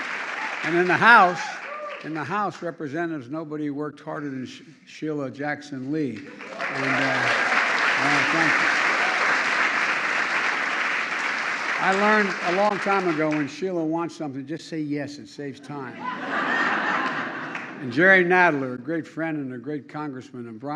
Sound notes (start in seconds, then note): 9.0 applause; 15.9 laughter